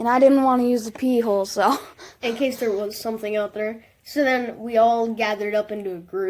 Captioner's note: intense Breathing